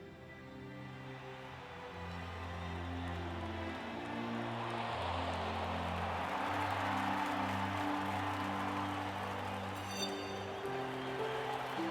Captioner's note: crowd applause